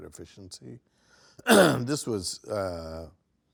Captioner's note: coughs